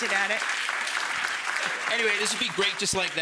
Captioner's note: audience applauding